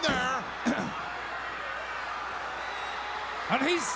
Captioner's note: crowd cheering